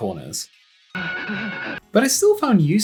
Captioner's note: questionable speed racer noises